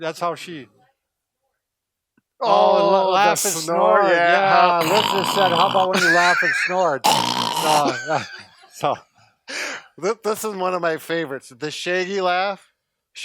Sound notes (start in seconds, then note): 4.8 snorts; 8.0 laughs